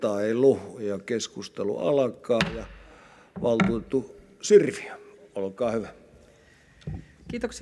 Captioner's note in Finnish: kopauttaa nuijaa